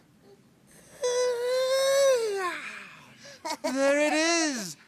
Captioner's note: yawns